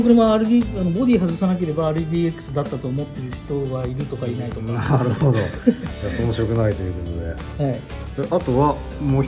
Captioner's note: laughs